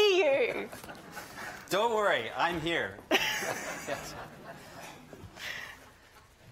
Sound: audience laughing

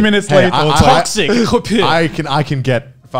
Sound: imitates spitting

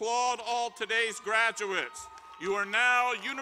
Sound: applause

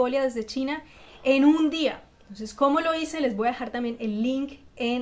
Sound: in Spanish only

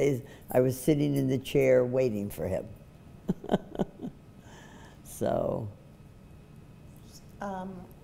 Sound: laughs

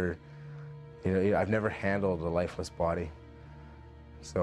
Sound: voiceover

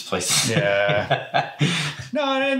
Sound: both laugh

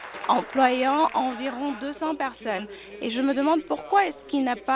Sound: applause

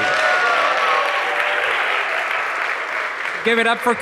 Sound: audience applauds and cheers

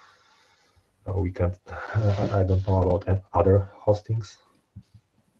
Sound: laughs

